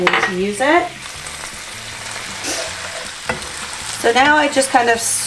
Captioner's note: sizzling